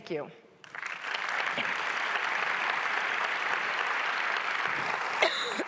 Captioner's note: audience applauding